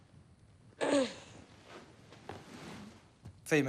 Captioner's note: coughs